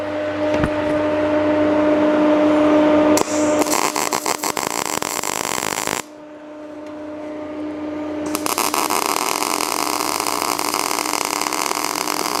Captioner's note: welding